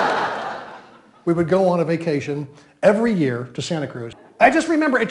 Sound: audience groans

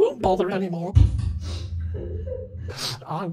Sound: sad Techmoan noises in the background

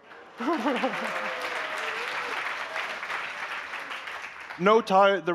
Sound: applause

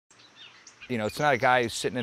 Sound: birds chirping

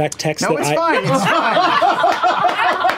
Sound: laughter

